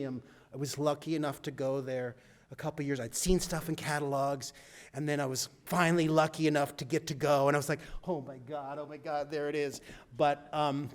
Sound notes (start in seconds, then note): none